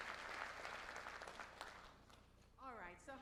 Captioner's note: cheers and applause